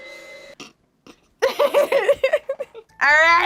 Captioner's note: laughs